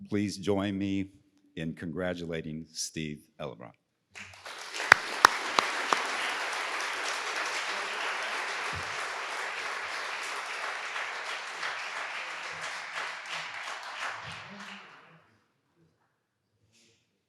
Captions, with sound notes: Please join me in congratulating Steve Ellebracht. (audience applauding)